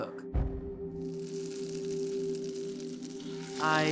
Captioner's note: pan sizzling